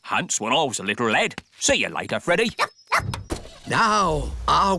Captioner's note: barks; car engine starts